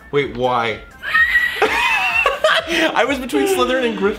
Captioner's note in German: kreischt